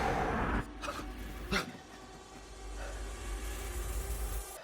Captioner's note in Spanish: Jonathan jadea